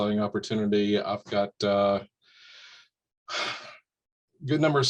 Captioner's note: sighs deeply